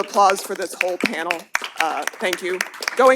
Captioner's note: applause